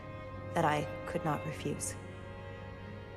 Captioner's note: voiceover